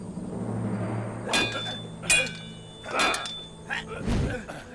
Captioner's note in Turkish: Kılıç sesleri